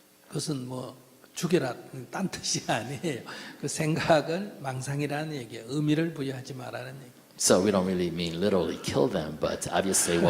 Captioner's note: laughter